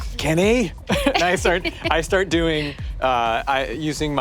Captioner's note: laughs